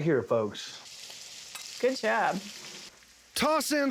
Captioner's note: sizzling sound